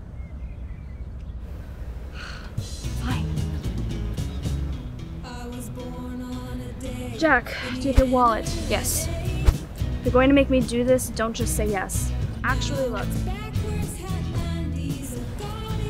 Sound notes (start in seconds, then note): 2.1 sighs; 3.8 upbeat music